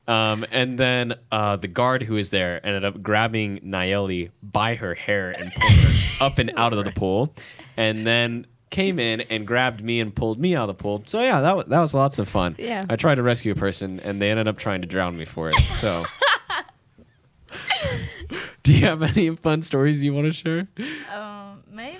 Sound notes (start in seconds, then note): 15.5 laughs